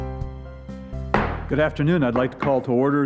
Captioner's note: gavel bang